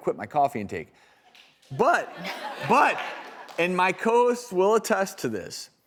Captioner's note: audience laughing